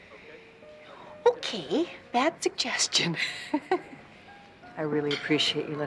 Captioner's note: laughs